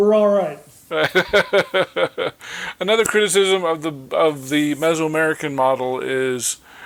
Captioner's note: chuckling